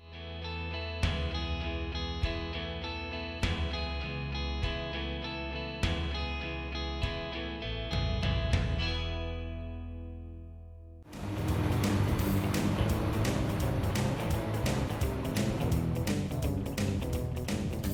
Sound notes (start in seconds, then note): 0.2 guitar music playing; 11.1 truck egine roaring; 14.5 upbeat music playing